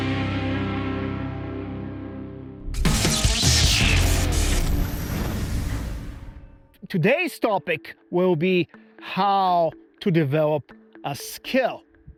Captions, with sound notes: (upbeat rock music) (logo crackling) - Today's topic will be how to develop a skill.